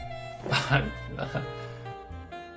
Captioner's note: relieved noises